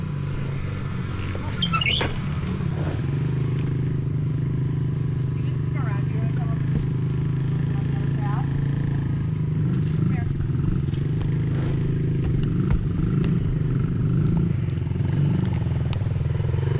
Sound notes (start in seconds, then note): 3.8 engine revving